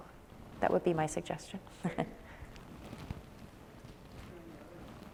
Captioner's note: chuckles